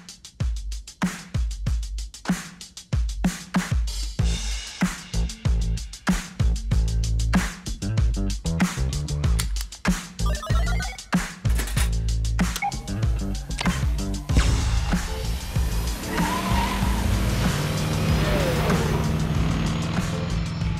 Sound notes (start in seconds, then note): 9.2 dashboard chiming; 9.2 buckles clasping; 13.2 tires screeching; 14.3 booster firing; 17.8 engine revving